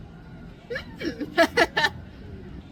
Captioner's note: laughs